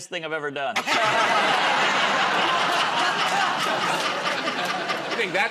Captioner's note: laughter